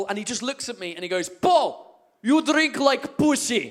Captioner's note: Russian accent